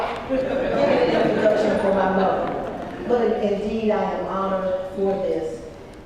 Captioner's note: laugh